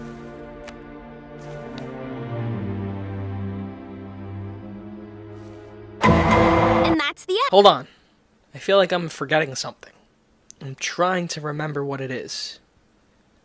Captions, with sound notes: (Law and Order SVU sound) -And that's the end! Hold on, I feel like I'm forgetting something. And I'm trying to remember what it is.